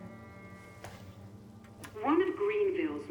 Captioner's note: button clicks